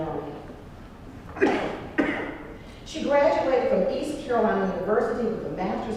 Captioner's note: cough